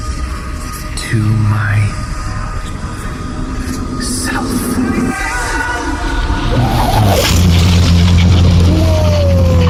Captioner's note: crackling with power